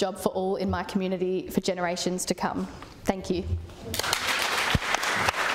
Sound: applause

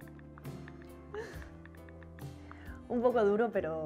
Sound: phone keyboard

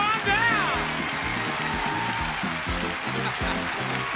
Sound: cheering

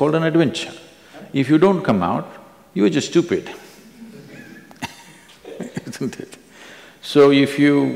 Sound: few laugh

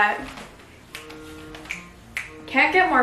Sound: fingers snapping

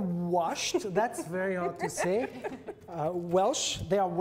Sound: women laugh

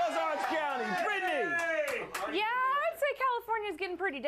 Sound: audience cheers

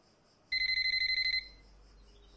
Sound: phone ringing

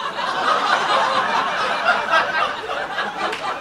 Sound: crowd laughs

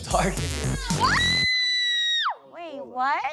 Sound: screaming

